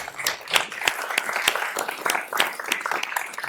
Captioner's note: applause